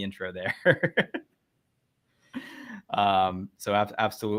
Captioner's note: laughing